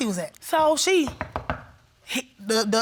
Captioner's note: knocks